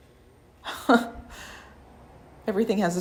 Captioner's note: chuckles